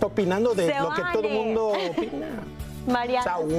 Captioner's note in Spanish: risas